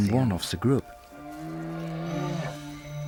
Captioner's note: bear groaning